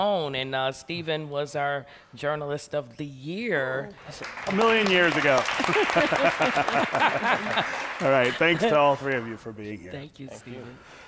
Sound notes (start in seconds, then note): 4.0 applause; 5.6 laughter